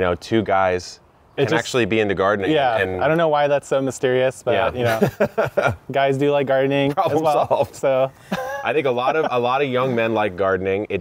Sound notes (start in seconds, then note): 4.6 laughing